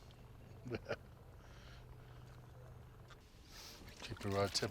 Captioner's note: chuckling